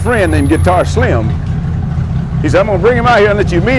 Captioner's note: truck engine idling